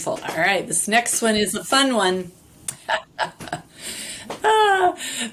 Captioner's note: laughs